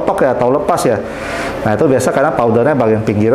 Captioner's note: inhale